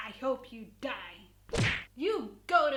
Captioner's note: whack